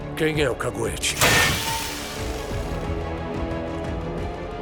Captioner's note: metal clangs